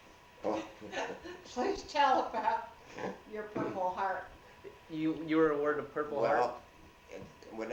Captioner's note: laughs